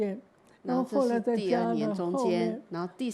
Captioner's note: Mandarin